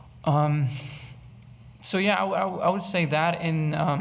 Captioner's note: none